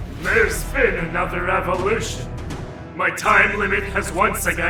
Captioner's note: none